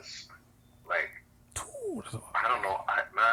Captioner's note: action sound